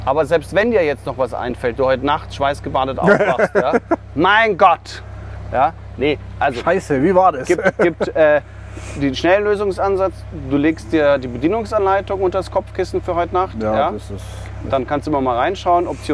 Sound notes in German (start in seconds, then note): 3.0 lacht